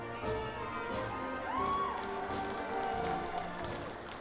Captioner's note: cheering